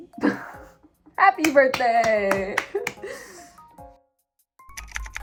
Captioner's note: clapping